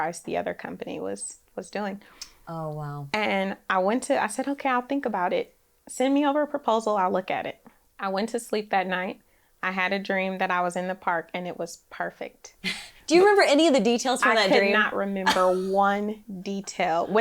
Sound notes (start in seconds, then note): 14.2 laughs